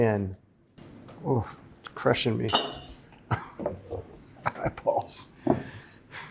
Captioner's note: chuckles